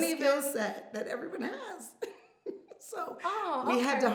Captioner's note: laughs